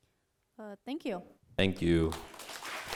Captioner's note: voiceover